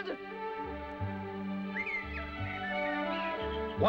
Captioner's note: birds chirping